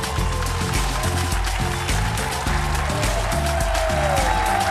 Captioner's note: upbeat music; audience applauds